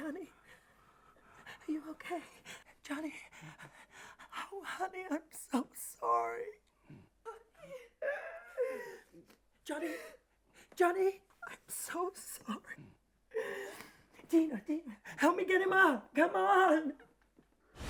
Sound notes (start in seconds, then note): 1.3 panting; 8.0 whimpers; 13.2 sobs